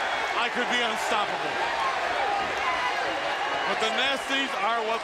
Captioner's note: crowd chatter